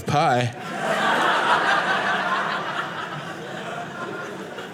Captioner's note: audience laughing